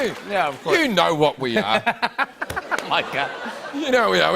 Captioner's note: laughs